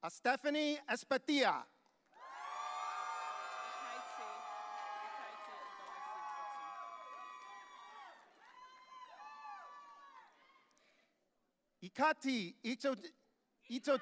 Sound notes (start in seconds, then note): 2.1 audience cheering